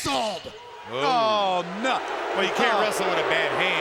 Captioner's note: crowd clamoring